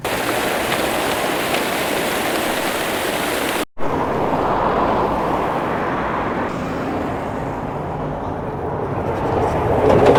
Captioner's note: city sounds